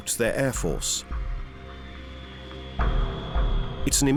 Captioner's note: jet engines whine